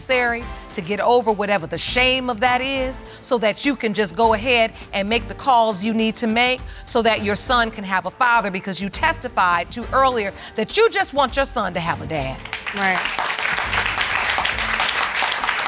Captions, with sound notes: to get over whatever the shame of that is, so that you can just go ahead and make the calls you need to make so that your son can have a father, because you testified earlier, that you just want your son to have a dad. Right. (AUDIENCE APPLAUDING)